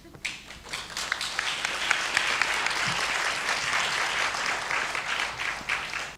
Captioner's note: audience applause